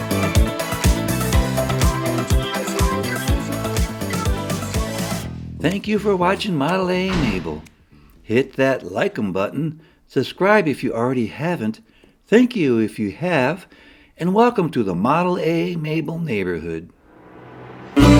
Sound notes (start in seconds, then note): 7.0 door Slam